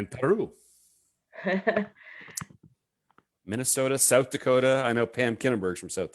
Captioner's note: chuckles